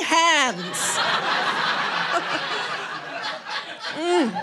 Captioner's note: audience laughing